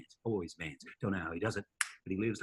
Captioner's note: snaps fingers